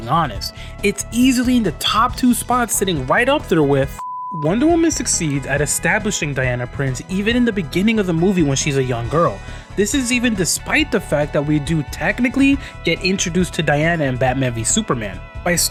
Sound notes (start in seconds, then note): 4.0 beep sound